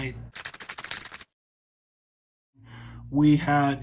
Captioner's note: keyboard typing